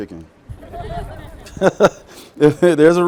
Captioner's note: all laughing